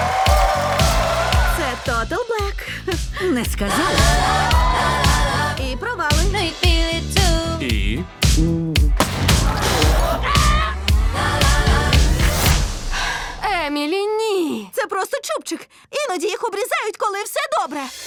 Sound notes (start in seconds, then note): 0.0 crowd cheers; 3.8 cheering; 9.2 exclaims; 13.0 sighs